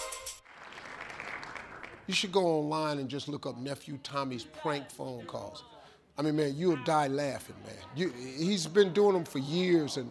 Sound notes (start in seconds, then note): 0.2 applause